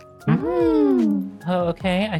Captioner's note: gasping